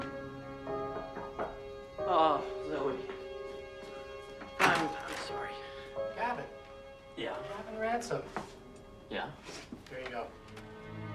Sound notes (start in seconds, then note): 0.9 knocking